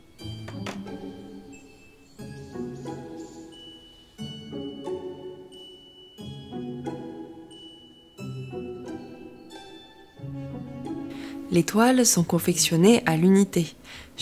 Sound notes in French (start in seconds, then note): 0.4 cliquetis métallique du miroir quand il cogne la table; 1.4 chant des oiseaux; 4.2 Musique intrigante